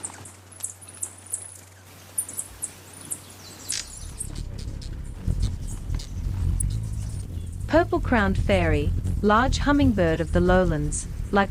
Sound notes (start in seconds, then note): 1.7 birds chirping and singing; 1.7 buzzing; 3.7 bird's wing flapping; 4.8 bird chirping